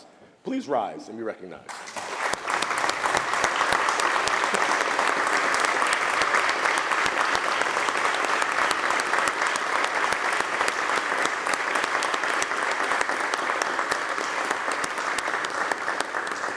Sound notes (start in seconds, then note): 1.6 applause